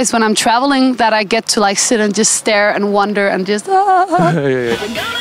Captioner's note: ahhhh